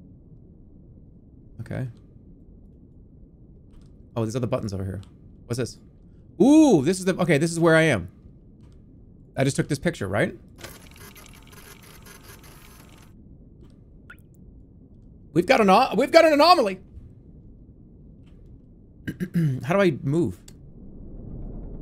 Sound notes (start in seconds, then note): 12.1 machine whirring; 19.0 clears throat